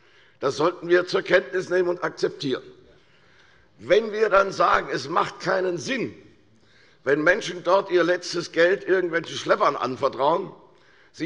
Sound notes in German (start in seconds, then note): none